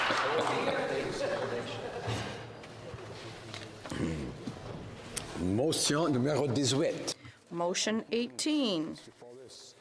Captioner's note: some Applause